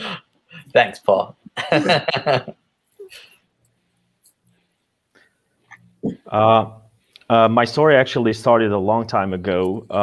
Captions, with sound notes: Thanks, Paul (laughs) My story actually started a long time ago.